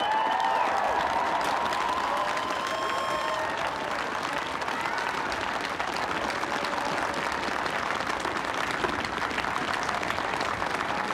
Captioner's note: applause